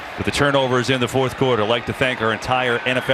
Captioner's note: crowd gasps